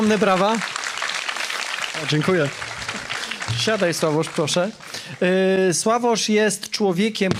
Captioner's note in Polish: oklaski